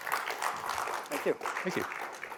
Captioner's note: applause